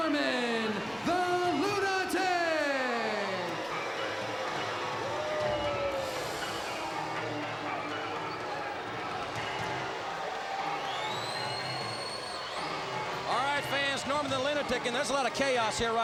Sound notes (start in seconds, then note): 3.2 crowd chatter